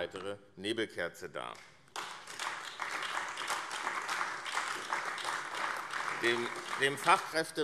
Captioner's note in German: Beifall AfD